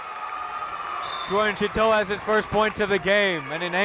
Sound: whistle

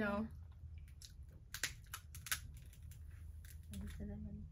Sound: crab legs cracks

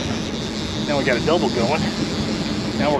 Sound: cranking

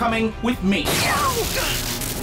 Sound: sparks

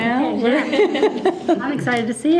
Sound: group laughing

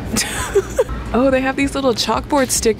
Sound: giggles

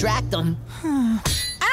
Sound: sighing

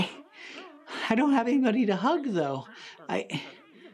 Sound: critters mumbling

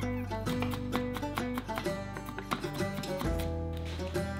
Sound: knife tapping; soft music

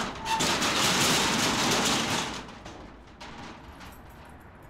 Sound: metal door clanks

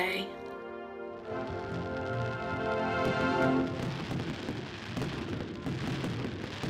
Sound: triumphant music; fireworks sizzling

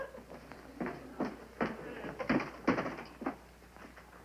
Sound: walking

